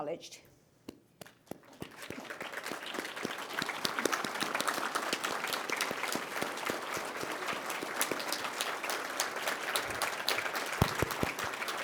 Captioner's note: applause